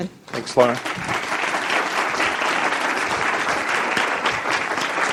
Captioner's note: audience applauding